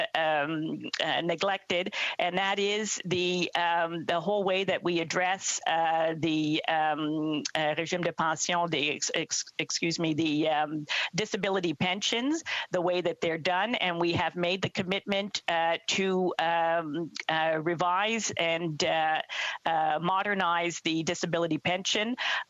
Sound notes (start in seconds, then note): 13.7 speaking in French